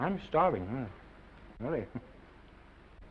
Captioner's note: chuckles